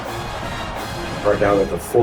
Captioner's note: crowd Noises